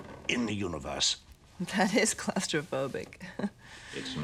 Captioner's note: chuckles